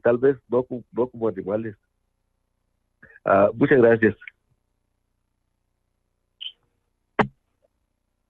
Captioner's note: speaking in Spanish